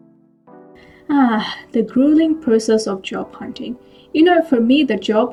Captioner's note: sighs